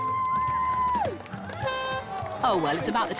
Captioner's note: cheering; horn blares